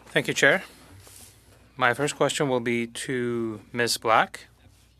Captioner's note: speaking French